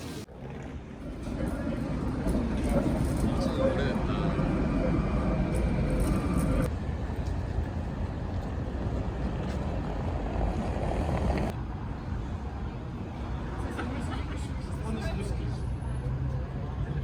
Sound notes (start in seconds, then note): 4.3 A very old tram passing